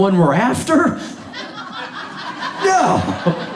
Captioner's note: audience laughs